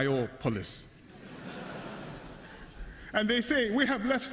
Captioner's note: laughter